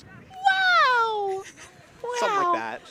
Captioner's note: chuckles